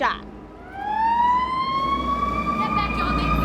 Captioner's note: siren wailing